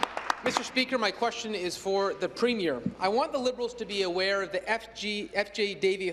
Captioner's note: applause